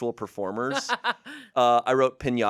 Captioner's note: laughs